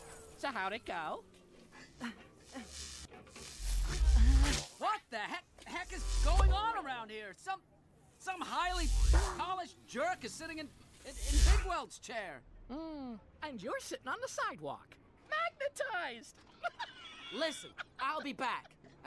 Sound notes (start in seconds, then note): 1.5 grunting; 1.5 magnetic humming; 16.5 laughing